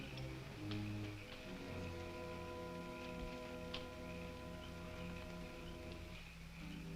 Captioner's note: tense orchestral music; insects chirping